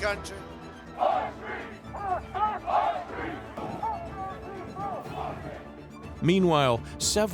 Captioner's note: chanting